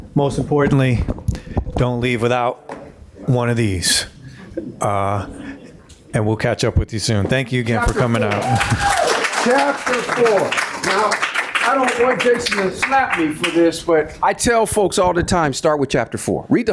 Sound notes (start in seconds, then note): 7.6 audience applauding; 7.7 audience cheering